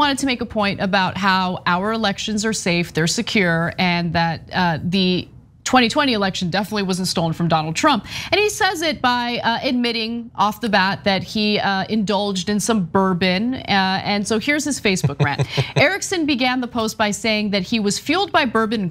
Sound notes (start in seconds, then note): 15.0 laugh